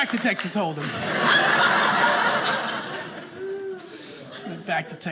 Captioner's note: audience laughing